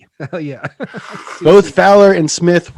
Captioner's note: laughs